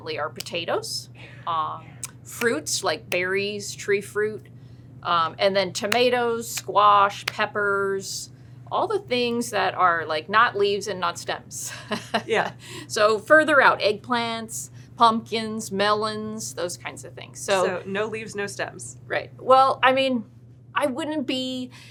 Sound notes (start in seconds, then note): 11.3 laughs